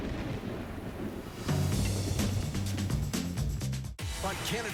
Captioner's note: thunder rumble